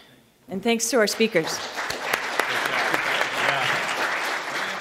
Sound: audience applauding

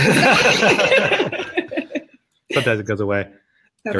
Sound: both laugh

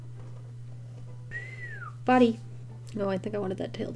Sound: whistles

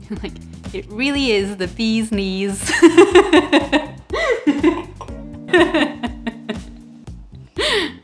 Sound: laughs

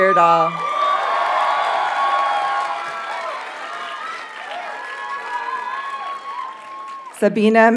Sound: audience cheers and applauds

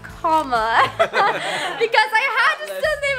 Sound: laughing

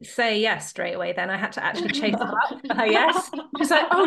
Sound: laughs

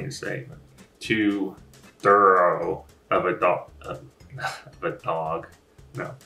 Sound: chuckles

